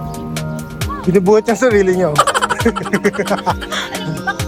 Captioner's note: laughing SFX; laughing